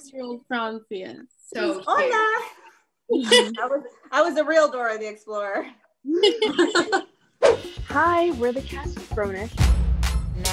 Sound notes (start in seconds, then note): 3.1 laughing; 6.1 laughing; 9.6 upbeat music